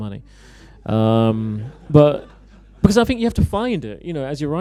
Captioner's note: laughter